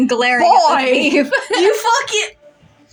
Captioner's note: laugh